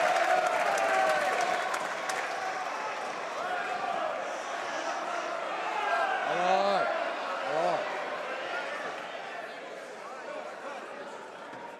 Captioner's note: some applause